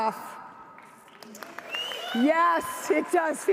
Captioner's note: audience cheers